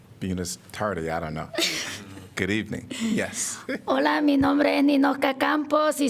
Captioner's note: laughter